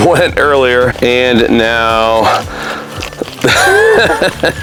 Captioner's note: laughing